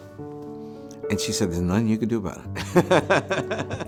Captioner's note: laughter